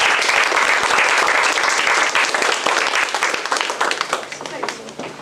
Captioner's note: applause